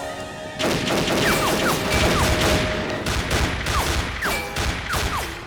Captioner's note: gunfire clattering